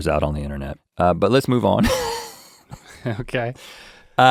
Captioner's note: laughs